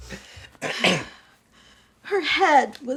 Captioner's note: Irving coughs